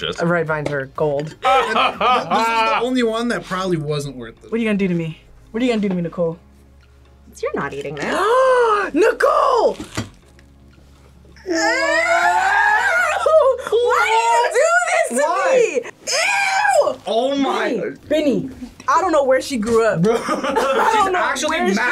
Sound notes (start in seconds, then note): 1.4 laughs; 8.0 gasps